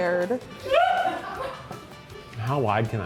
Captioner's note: crew laughs